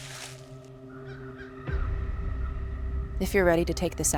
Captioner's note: eerie music; crows cawing